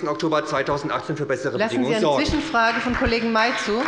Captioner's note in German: Beifall bei der SPD